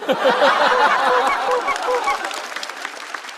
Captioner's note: quack quack quack